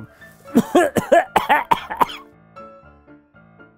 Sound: coughing

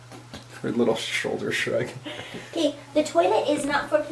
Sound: chuckles

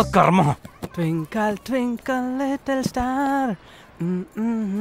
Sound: humming

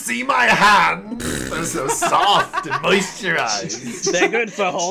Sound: laughter

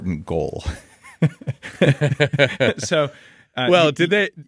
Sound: laughing

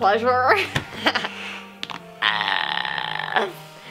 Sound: laughing

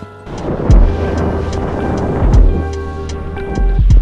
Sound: skis whooshing

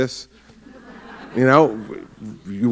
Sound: laughter

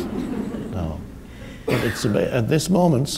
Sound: audience laughs

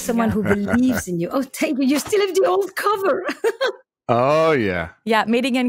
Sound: laughs

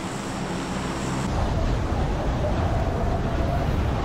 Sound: wind noises

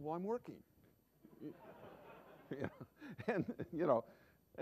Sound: laughter

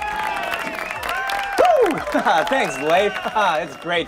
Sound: audience cheering

